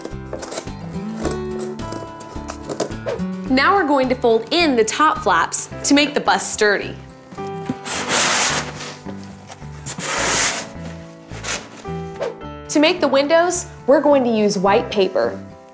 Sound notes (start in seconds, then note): 7.3 box rustles